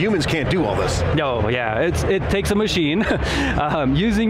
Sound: laughs

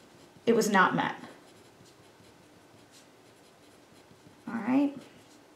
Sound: pen scribbles; pen continues scribbling

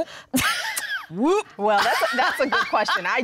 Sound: laughter

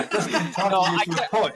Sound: laughing

